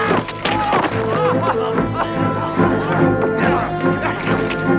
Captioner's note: man shouts; men groaning